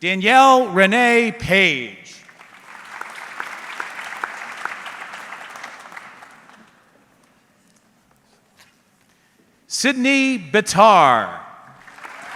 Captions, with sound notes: Danielle Renee Page. (audience clapping) Sydney Batar.